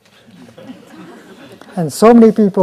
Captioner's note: laughter